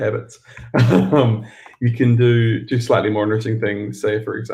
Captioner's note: laughs